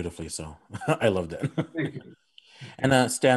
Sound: laughing

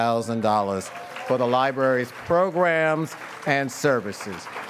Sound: audience cheers and applauds

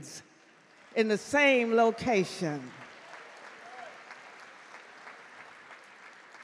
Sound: audience clap

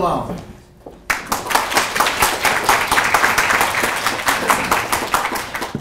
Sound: audience clapping

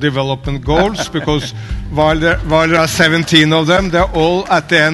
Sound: Sadhguru laughs

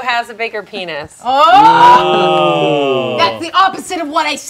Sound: group exclaiming

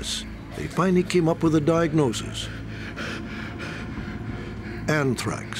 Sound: laboured breathing

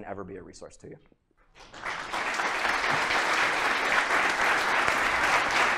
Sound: applause

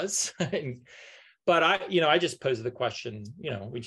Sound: laughs

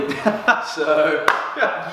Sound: laughing

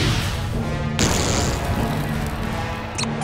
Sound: thundering

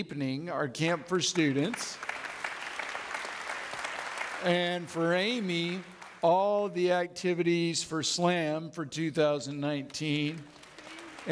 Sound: audience clapping

